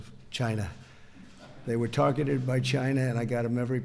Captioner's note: laughter